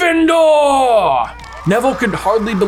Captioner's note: students applauding